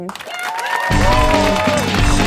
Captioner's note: crowd cheering; upbeat funk music